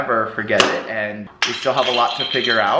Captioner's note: crashes